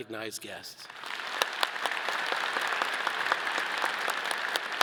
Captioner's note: all applauding